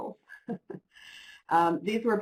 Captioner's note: laugh